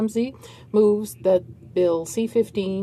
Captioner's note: speaking French